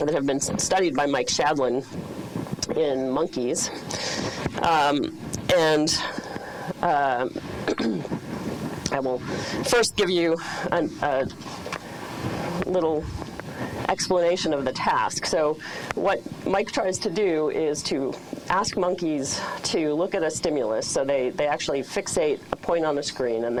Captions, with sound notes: that have been studied by Mike Shadlen in monkeys. And (clears throat) I will first give you a little explanation of the task. So what Mike tries to do is to ask monkeys to look at a stimulus. So they actually fixate a point on the screen,